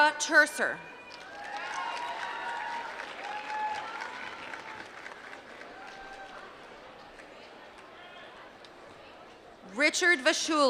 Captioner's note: applause